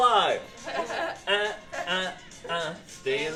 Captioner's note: laughter